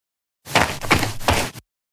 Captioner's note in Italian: FX - Footsteps - On Multiple Dirt - Run